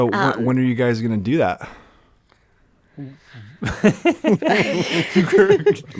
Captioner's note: laughs